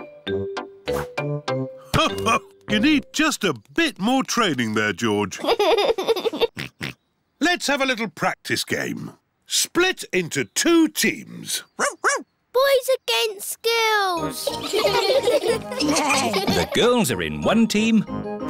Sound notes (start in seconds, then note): 5.4 giggles and oinks; 11.8 barks; 14.4 all giggling